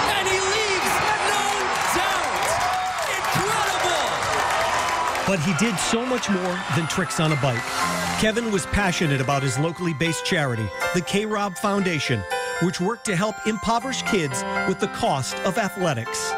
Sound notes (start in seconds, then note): 8.3 cheering